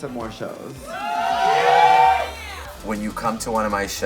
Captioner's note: audience cheers